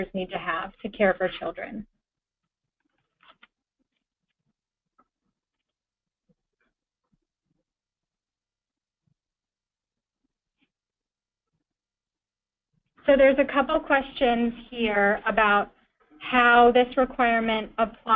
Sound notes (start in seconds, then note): 4.3 pause